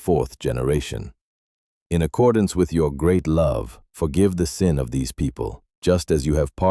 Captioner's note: pleading